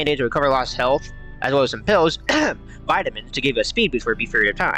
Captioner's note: ahem